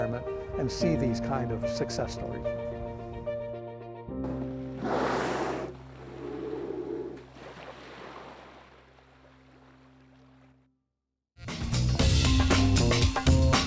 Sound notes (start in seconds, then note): 4.7 whale calling; 4.8 air hissing; 7.0 water lapping